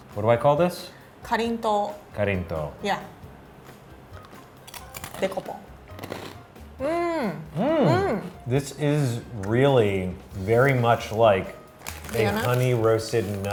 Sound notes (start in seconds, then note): 1.3 speaking in foreign language; 4.7 chewing; 5.6 speaking in foreign language